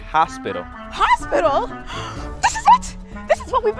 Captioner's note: gasps